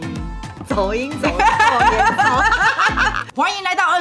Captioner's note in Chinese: 哈哈哈哈哈哈哈